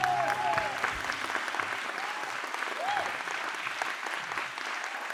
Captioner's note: applause; cheering